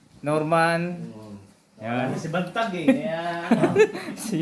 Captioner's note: laughs